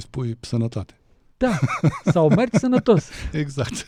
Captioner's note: laughter